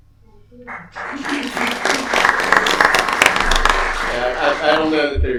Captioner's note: applause